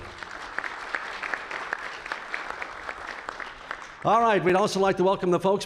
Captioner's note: applause